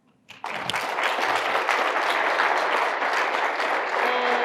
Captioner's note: applause